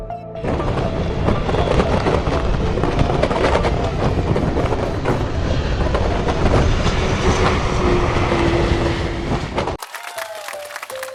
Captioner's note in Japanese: 激しい風切り音と機体のきしみ音